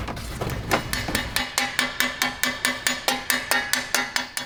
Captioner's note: hammer banging